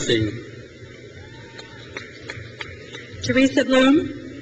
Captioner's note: crowd cheers